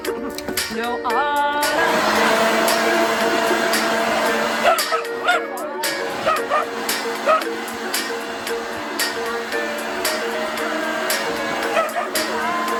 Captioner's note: dog barking, leaf blower blowing